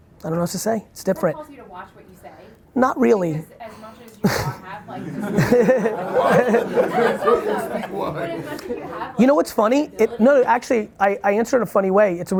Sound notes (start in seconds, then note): 4.2 laughs